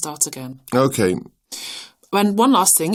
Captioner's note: sounding hurried